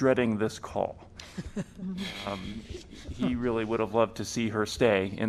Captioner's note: laughter